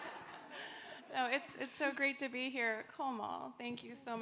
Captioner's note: audience laughing